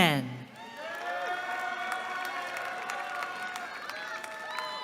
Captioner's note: cheering